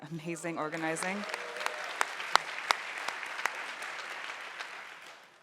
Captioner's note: audience applauding